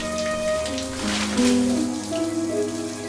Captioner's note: shower curtain rustles